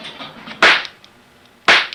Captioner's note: cap gun popping